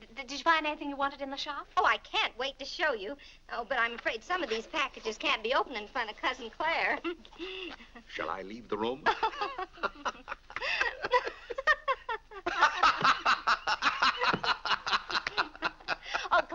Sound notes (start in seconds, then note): 6.9 chuckles; 8.8 laughing